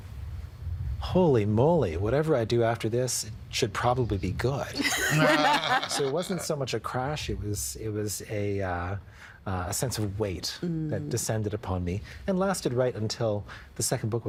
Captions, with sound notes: "Holy moly, whatever I do after this it should probably be good." (All laughing) So it wasn't so much a crash. It was a, uh, a sense of weight that descended upon me, and lasted right until the second book was published.